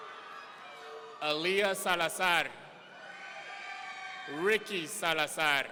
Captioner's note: audience cheering